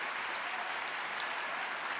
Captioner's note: applause